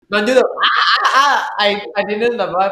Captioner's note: SpongeBob-like scream